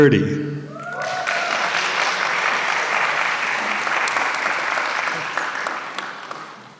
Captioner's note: applause